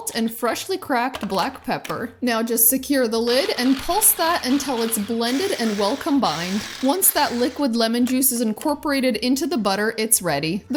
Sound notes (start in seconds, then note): 3.2 blender whirling